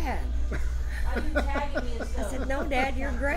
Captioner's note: laughs